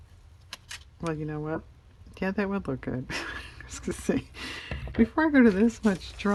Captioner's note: laughs